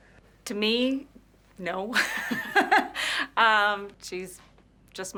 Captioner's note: laughing